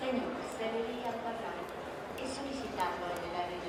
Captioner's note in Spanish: Voz en altoparlantes